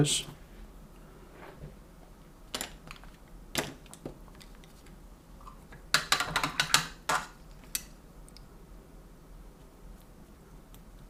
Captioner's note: silence